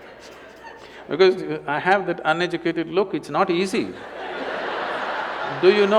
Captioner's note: laughter